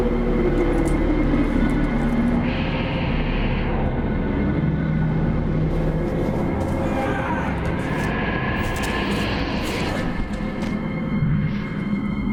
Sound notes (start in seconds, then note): 6.6 screams; 9.5 ominous music